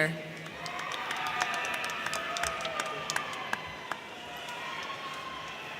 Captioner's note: crowd cheering; crowd clapping